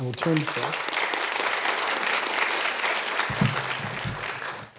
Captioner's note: applause